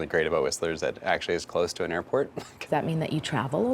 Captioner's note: laughs